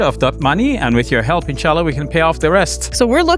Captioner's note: speaking in foreign language